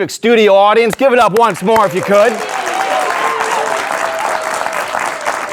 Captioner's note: audience applauding